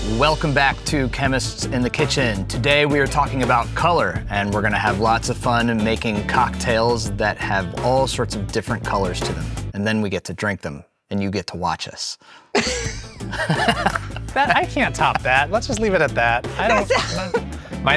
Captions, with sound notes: - Welcome back to "Chemists in the Kitchen." Today, we are talking about color, and we're gonna have lots of fun and making cocktails that have all sorts of different colors to them, and then we get to drink them, and you get to watch us. (participants laughing) - I can't top that. Let's just leave it at that. I don't know.